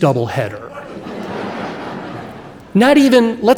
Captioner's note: audience laughing